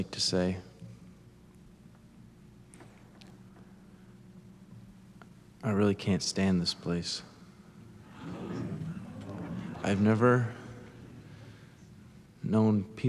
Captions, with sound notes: Instead I'd just like to say I really can't stand this place. (congregation murmurs) I've never known people who